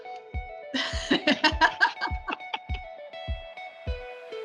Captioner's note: both laugh